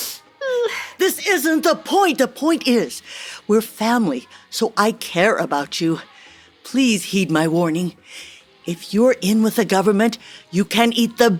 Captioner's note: sound of a slap